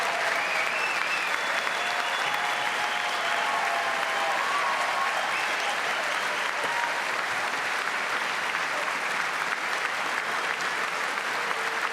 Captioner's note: applause